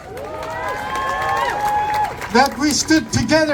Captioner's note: applause